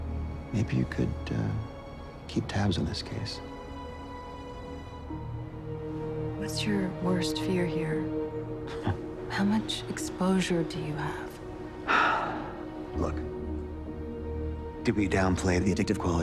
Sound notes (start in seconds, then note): 8.6 chuckles; 11.8 sighs